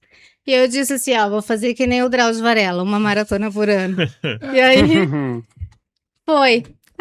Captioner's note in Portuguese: risadas